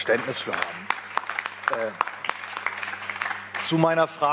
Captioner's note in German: Beifall